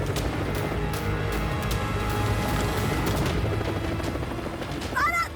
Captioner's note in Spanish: ruido del helicóptero